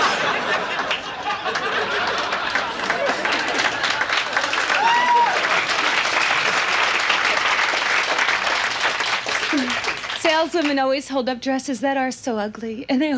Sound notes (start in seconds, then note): 0.3 audience laughs; 1.6 audience applauds